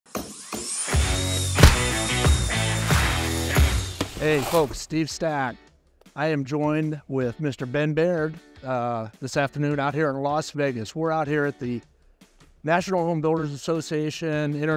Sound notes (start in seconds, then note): 0.5 tools whirring; 0.9 rock music